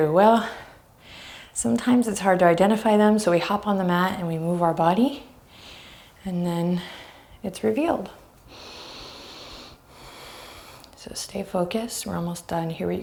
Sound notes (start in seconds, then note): 8.4 deep breaths